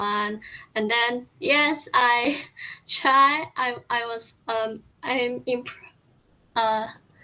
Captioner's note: stutter